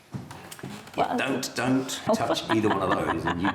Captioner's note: laughs